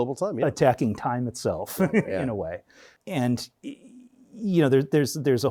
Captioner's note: chuckles